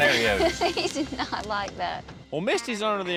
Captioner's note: chuckles